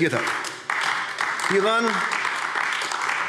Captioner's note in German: Beifall AfD